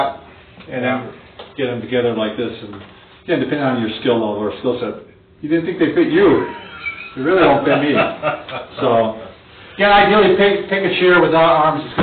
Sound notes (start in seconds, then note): 8.4 laughs